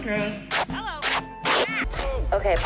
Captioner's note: waxing sounds